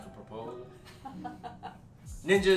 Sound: laughing

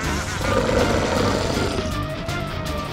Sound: growling

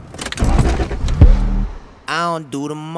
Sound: engine starts

